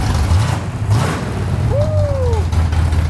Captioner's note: engine revving